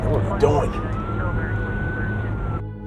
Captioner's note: sirens blaring